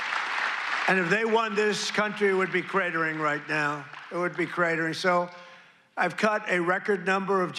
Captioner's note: applause